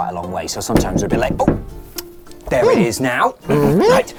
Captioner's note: knocking